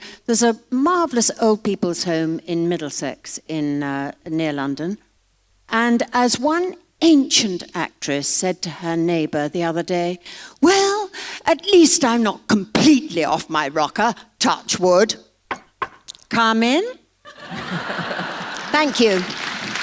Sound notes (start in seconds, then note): 15.5 knocking; 17.2 laughter